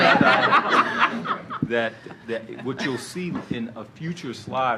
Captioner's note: laughter